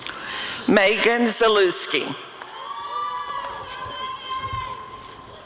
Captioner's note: audience cheering